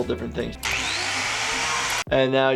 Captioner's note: saw whirs